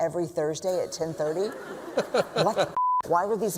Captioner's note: laughter